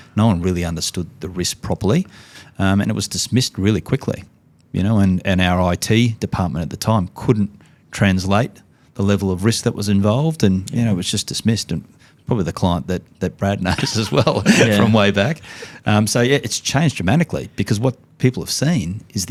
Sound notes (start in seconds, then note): 13.6 laughing